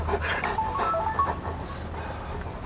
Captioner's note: phone alert